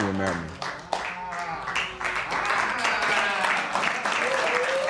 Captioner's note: applause